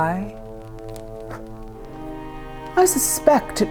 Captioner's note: blowing